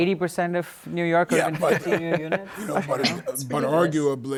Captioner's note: laughs